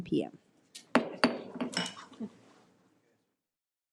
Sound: gavel pounds

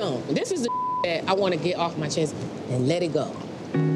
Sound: beep

